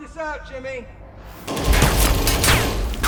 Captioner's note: distant rifle shots; bullets ricochet